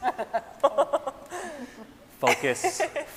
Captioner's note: scientists laughing